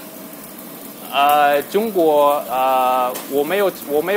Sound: mandarin

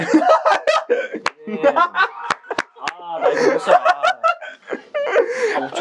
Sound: laughing

